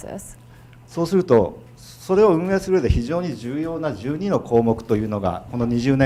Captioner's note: speaking in foreign language